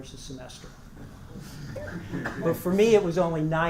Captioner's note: laugh